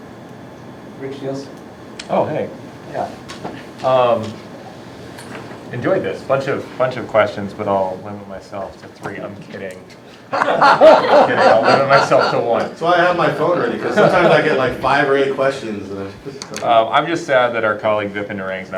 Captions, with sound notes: Rich Nielsen. Oh, hey. Yeah. I Enjoyed this. Bunch of questions. But I'll limit myself to three. I'm kidding. [LAUGHING] I'll limit myself to one. That's why I have my phone ready because sometimes I get five or eight questions. I'm just sad that our colleague, Vipin Narang,